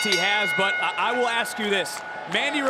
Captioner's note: bell rings